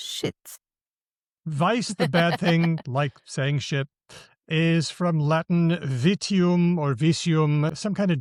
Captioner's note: laughs